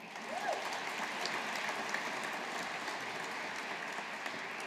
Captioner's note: audience applauding